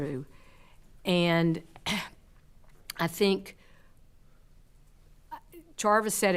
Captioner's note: clears throat